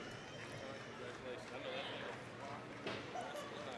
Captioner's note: applause